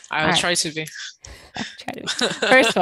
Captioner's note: laughs